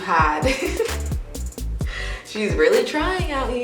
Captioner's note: laughing